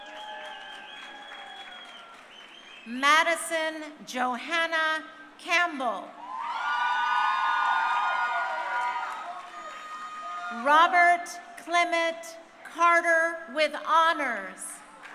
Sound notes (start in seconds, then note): 0.0 crowd cheering; 6.2 crowd cheering; 9.6 audience members shouting; 14.9 crowd cheering